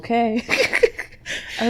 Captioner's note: laughs